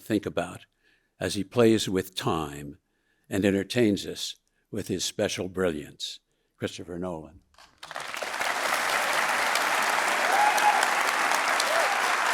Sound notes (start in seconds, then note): 7.8 audience cheering